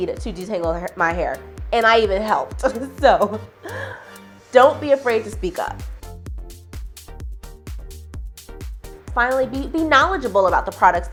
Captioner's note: chuckle